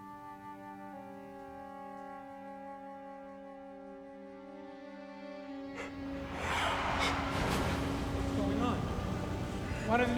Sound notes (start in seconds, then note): 0.2 slow, solemn music; 5.7 gasping